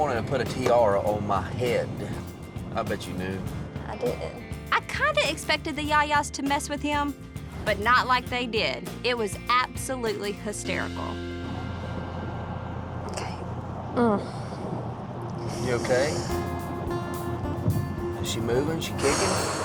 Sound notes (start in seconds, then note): 14.2 grunting